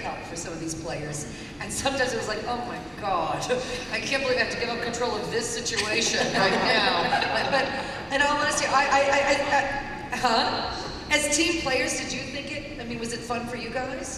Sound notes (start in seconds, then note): 5.8 laughter